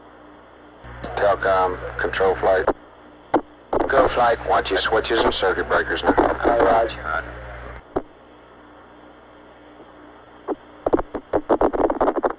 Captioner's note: mission Control Audio